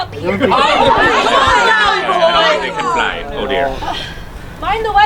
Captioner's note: people chattering